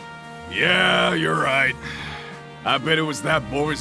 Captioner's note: sigh